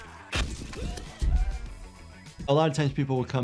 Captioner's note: character screams